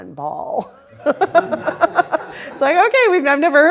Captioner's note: all laughing